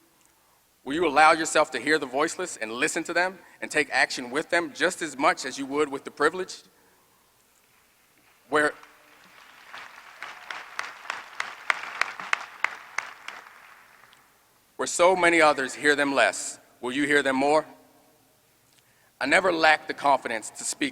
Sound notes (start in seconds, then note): 8.2 applause